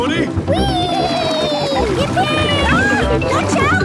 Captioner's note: George giggles